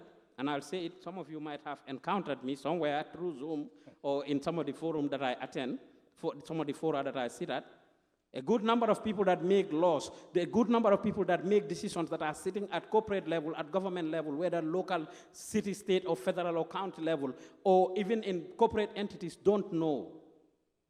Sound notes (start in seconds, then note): none